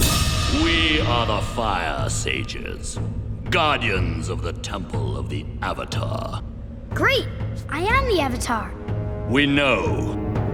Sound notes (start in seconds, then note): none